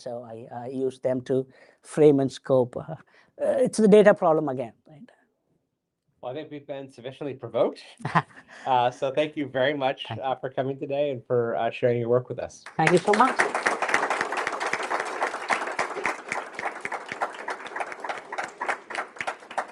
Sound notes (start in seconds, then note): 8.0 chuckles; 12.6 applause